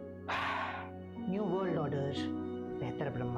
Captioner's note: scoffs